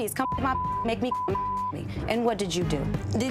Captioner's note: beep